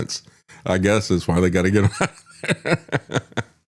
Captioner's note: laughs